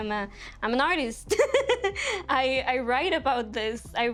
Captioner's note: laughing